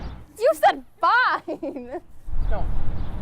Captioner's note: laughs